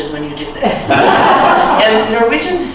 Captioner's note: laughter